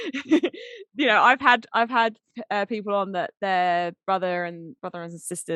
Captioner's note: laughing